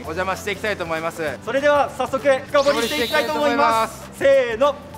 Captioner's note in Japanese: シャキーン